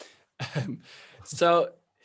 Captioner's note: chuckles